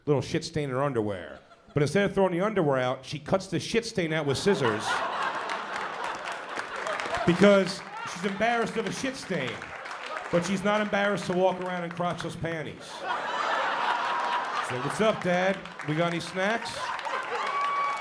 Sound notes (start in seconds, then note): 4.1 laughter